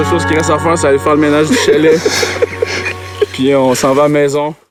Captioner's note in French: rires